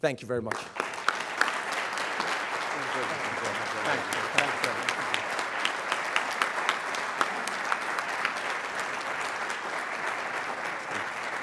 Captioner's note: applause